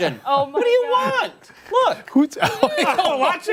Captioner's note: laughter